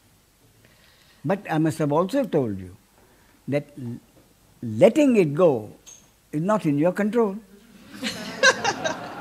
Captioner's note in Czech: smích